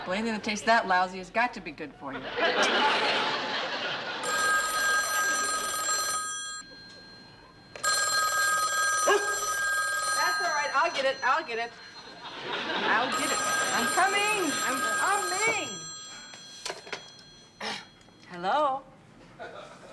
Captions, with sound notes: anything that taste that lousy has got to be good for you. [laughter] [phone ringing] [dog barking] That's all right, I'll get it, I'll get it. I'll get it. I'm coming, I'm coming. Hello.